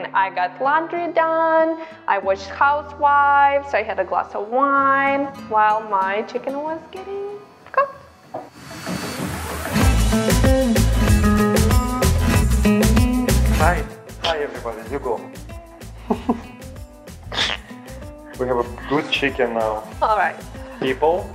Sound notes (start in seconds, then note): 9.8 bouncy guitar; 16.0 husband giggles